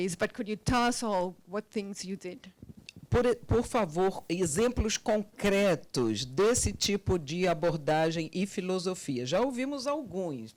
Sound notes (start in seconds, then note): 3.3 translator speaking Portuguese